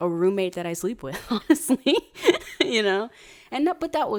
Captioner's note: laughs